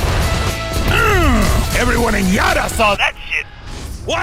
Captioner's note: yells